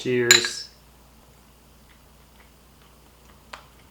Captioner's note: bowls clank